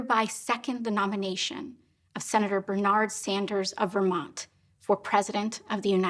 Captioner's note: speaking Spanish